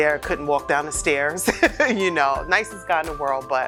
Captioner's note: laughing